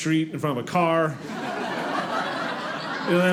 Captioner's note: audience laughing